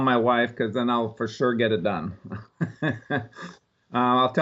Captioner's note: laughs